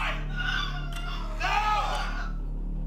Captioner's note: Holly screaming; clock ticking; intense music